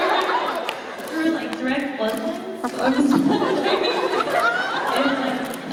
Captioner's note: laughing; laughing